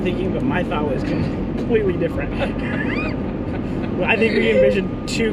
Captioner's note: both laugh